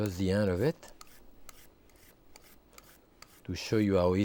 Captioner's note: vegetable peeler slicing